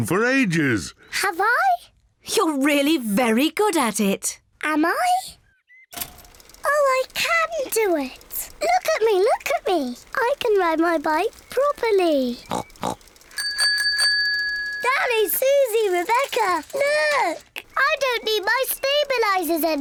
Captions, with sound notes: -Have I? -You're really very good at it. Am I? Oh, I can do it! Look at me, look at me! I can ride my bike properly! (SNORTS) -(BICYCLE BELL RINGS) -Danny, Suzy, Rebecca! Look! I don't need my stabilizers anymore.